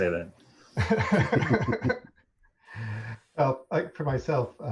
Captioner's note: laughter